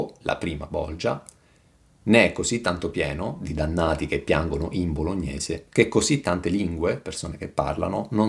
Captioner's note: people speaking